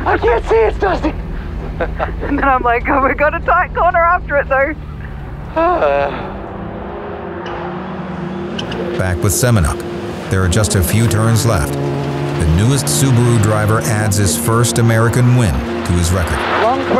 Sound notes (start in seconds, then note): 1.7 laughs; 5.5 Pastrana sighs